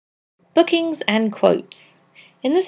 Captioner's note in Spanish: Voz en off